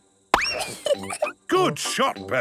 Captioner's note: giggles